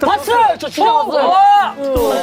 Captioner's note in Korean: Их шуугиан